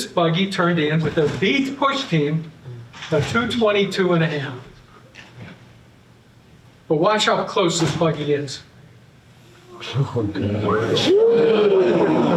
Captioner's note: audience: Whoooooo!